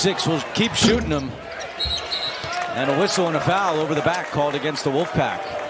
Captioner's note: whistle